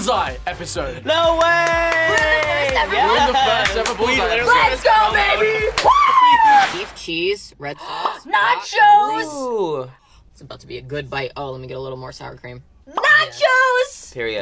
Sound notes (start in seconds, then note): 7.8 gasps